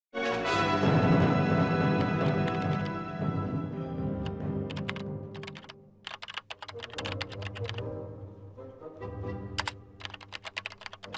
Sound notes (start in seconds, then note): 0.2 keyboard clicking; 0.2 dramatic music; 0.2 dramatic music continues; 6.0 keyboard clicking; 6.7 dramatic music continues